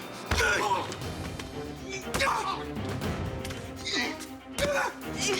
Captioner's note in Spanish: Golpes y exclamaciones